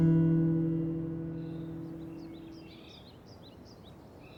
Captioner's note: guitar, dun dun dunn; river echoing birds singing